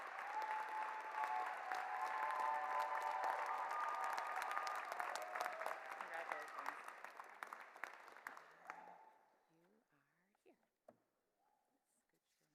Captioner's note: cheers and Applause